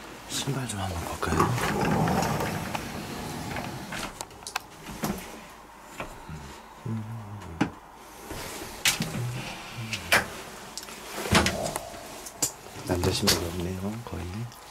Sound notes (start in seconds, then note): 1.5 the door opens; 6.2 is suddenly humming